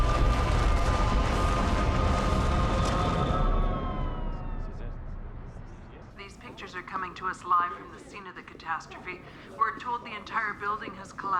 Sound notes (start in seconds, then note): 3.7 indistinct chatter; 6.0 woman 1 over TV